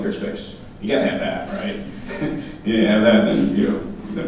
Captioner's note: laughing